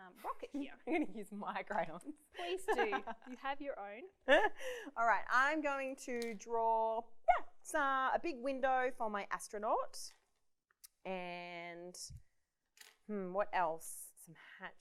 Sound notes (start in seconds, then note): 2.4 laughs